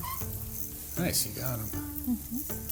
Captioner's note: rod whirring